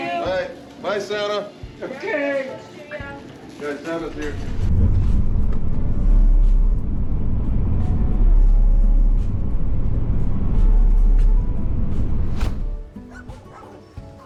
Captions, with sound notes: Bye, Santa. Okay. Guys, Santa's here. [whoosh]